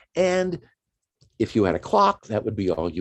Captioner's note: none